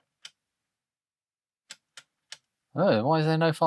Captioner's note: keyboard Clicking